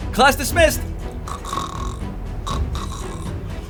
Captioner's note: dramatic music; student snoring